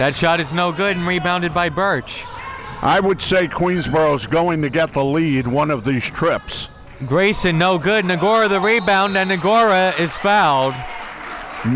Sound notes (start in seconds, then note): 8.5 whistle tweeting